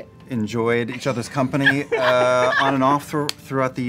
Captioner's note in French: rires